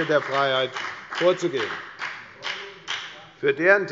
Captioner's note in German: Beifall bei der FDP